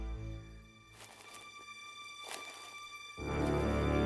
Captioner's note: footsteps; suspenseful music